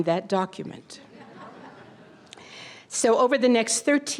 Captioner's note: audience laughter